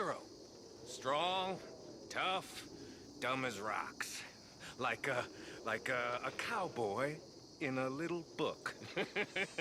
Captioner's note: laughs